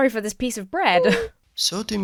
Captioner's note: bread whimpers